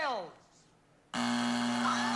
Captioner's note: buzzer